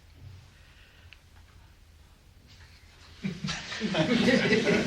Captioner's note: laughter